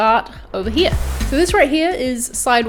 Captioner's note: swirling sound